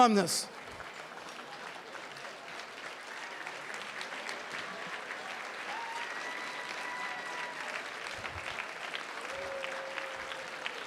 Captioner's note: applause